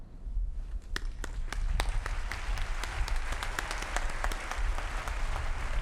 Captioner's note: applause